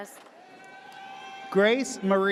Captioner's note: audience cheers